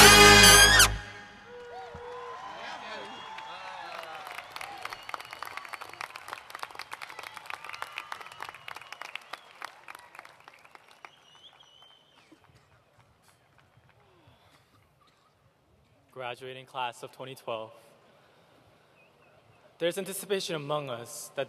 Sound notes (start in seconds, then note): 5.6 applause